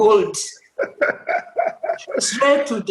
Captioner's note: laughter